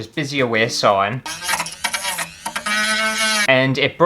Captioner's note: saw Cutting